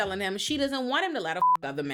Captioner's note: beep